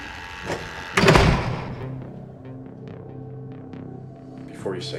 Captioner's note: metal clangs; tense music